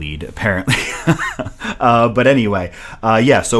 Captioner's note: chuckles lightly